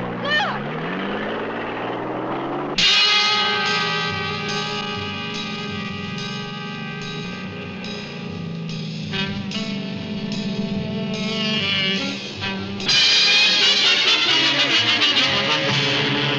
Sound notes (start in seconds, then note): 2.7 dramatic instrumental music; 4.8 car engine running